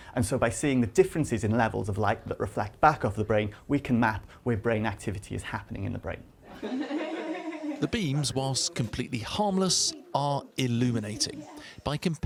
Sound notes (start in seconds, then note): 8.2 voice-over